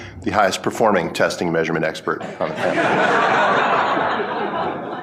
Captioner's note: laughing